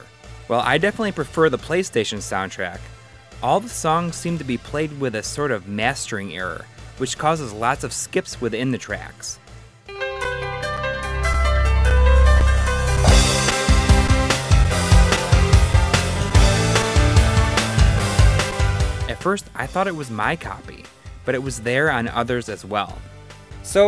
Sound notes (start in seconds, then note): 11.0 game audio